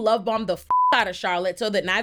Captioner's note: beep